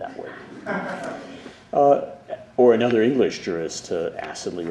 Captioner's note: laughter